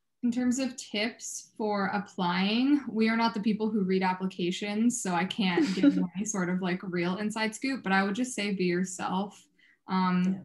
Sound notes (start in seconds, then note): 5.5 chuckling